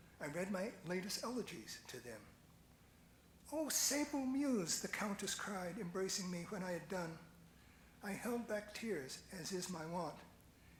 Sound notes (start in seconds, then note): none